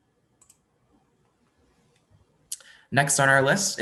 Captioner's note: mouse clicks